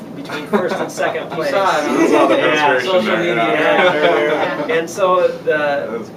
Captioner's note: everyone laughs and agrees